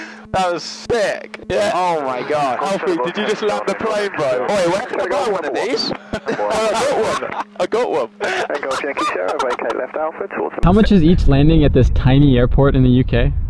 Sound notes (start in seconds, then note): 8.1 laughing